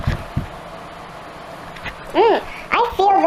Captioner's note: faint whooshing of the fireplace